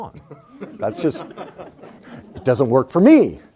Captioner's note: crowd laughs